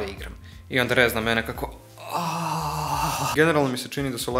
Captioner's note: unnecessarily sexual noises